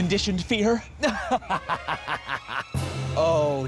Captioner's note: laughing